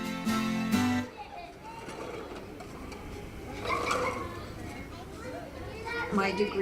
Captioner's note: sound of children playing